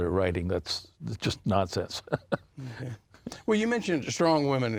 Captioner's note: laughing